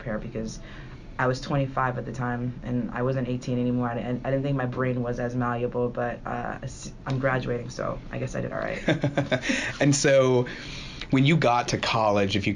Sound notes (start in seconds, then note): 8.8 laughing